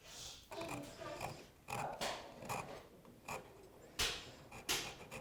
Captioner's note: rasp scratches softly